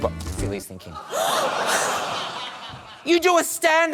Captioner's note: gasps